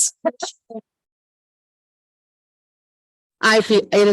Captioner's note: audio echoing